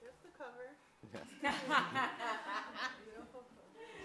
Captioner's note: audience laughs